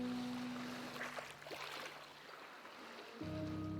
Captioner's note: water lapping shore; pensive music